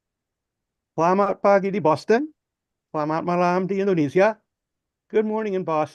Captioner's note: speaking in foreign language